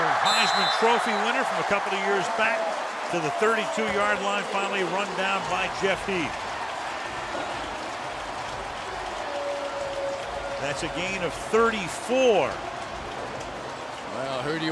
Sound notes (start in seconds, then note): 7.0 cheering; 9.8 pa announcement